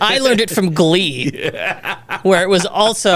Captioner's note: laughs